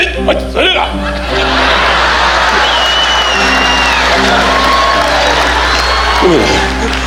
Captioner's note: imitating Japanese language; audience laughing and cheering